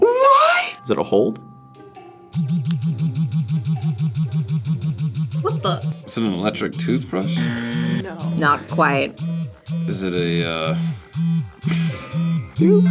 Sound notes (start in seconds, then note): 2.3 wand vibrates; 6.7 buzzer; 11.6 laughs